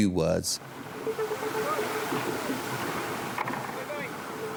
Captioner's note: rescuers chatting